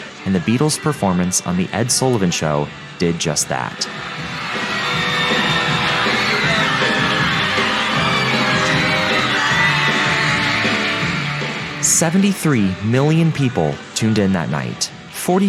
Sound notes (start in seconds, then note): 3.8 women screaming